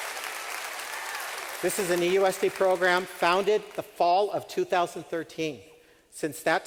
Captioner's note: cheering, clapping